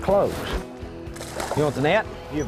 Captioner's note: splash